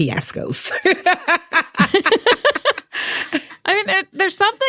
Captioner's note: both laughing